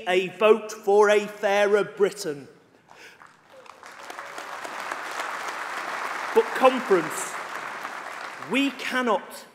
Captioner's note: applause